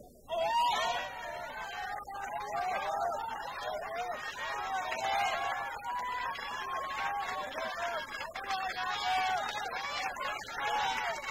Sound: crowd cheering

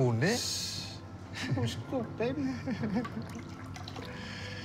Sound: friend laughs

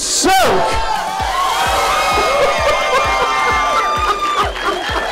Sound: laughter; clapping

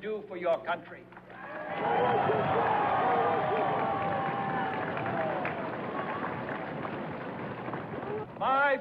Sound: cheers

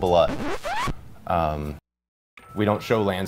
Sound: record scratch

